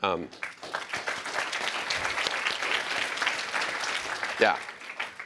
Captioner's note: applause